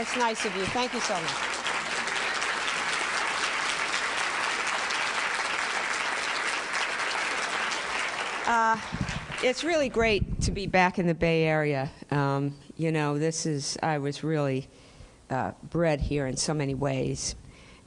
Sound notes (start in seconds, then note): 1.7 applause